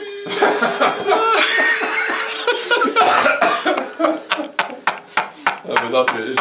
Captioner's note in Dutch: gelach